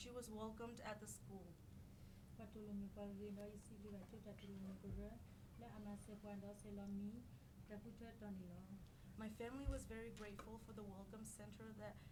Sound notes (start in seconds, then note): 2.6 speaking in foreign language